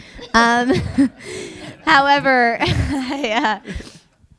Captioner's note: audience laughing